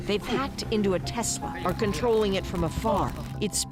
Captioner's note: speaking foreign language